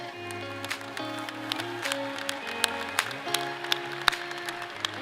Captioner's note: audience applauds